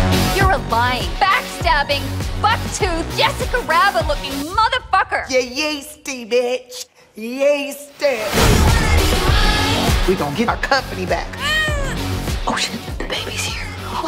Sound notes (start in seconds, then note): 11.3 baby cries